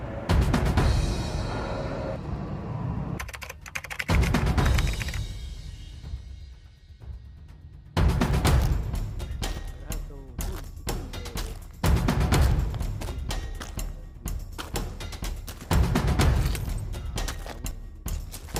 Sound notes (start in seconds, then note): 3.2 keys Clacking